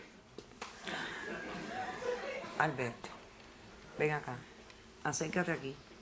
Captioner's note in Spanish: Risas